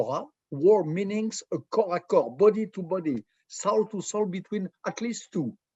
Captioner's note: hebrew